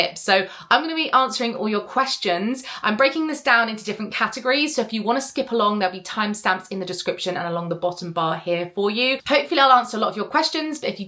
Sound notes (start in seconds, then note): none